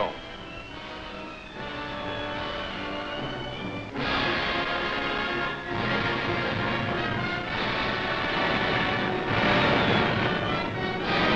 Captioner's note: aircraft noise